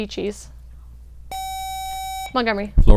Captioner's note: buzzer